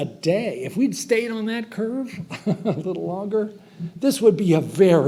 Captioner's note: chuckles